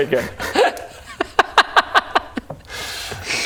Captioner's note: deserved mocking laugh